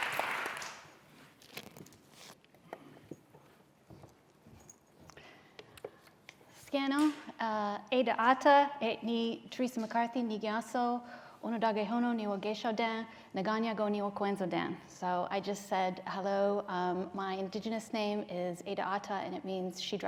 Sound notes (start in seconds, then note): 6.8 non-english speech